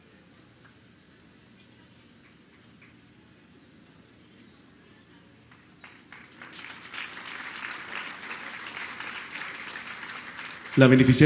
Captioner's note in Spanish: aplausos